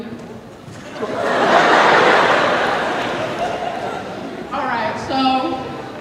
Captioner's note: laughter